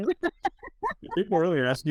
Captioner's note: laughs